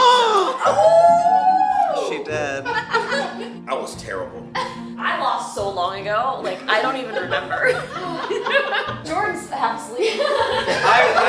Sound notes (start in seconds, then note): 0.0 crowd oohs; 2.4 crowd laughs; 7.7 scattered laughing; 10.0 crowd laughs